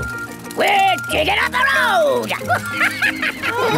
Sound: chuckles

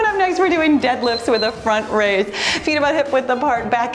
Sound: timer beeps

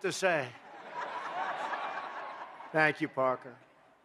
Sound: laughter

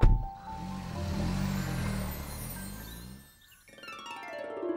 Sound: engine growls; harp chiming

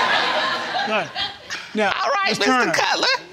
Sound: all laughing

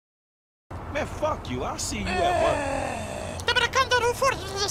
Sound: Pingu Angry Noises

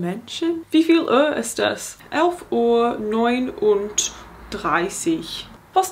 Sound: speaking in foreign language

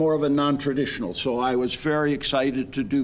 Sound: none

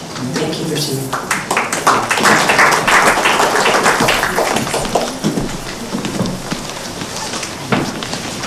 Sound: applause

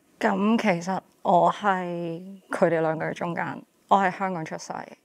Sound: speaking in Cantonese

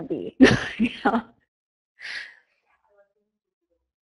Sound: laughs

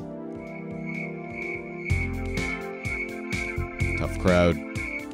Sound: crickets

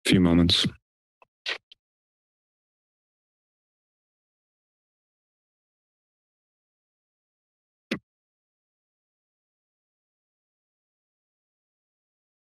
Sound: silence

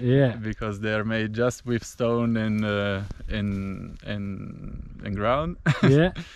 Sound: laughs

